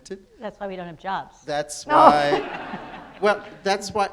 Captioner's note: audience laughs